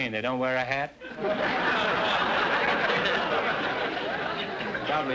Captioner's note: audience laughter